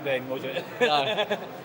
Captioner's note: laughs